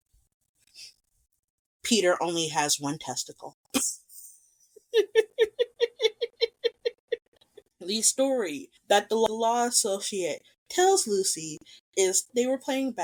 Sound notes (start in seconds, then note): 4.8 laughs